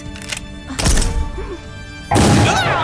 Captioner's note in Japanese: 着弾音; 発射音